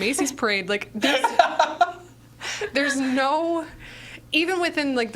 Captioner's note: laughing